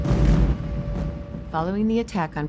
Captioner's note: bombing